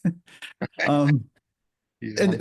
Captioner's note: laughter